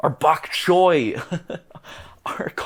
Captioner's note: small laugh